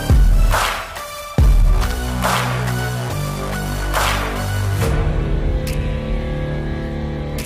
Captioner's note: Tepuk tangan